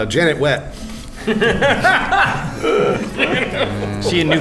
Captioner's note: laughs